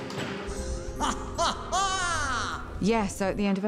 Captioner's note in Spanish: se ríe